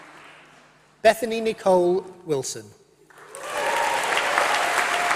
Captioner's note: applause